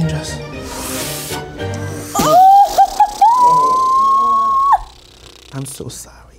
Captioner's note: sighs; squeals